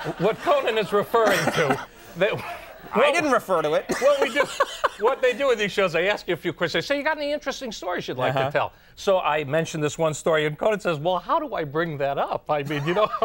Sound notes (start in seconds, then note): 4.5 laughs